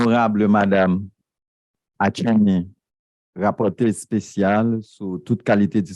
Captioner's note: speaking a foreign language